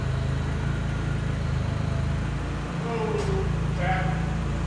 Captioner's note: forklift engine running